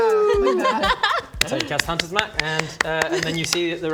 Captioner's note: charitable applause